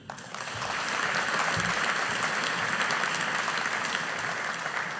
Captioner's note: audience applauding